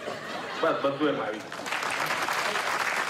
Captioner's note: speaks foreign language